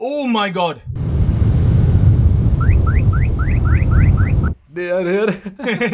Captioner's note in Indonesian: Suara mobil